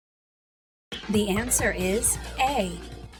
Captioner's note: female announcer speaking